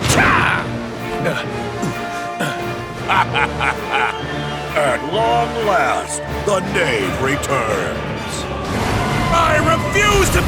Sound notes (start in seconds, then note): 3.0 laughter